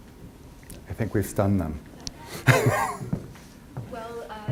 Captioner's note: laughs